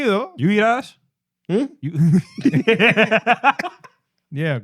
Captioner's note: speaking In Foreign Language; laughing